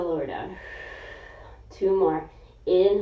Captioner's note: exhaling